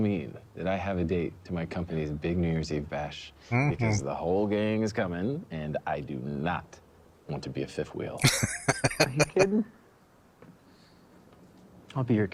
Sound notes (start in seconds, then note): 8.2 laughing